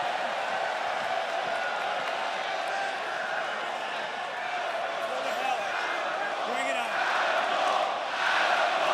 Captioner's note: crowd chatter